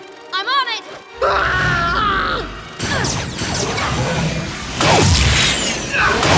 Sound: yells

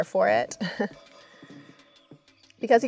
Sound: giggle

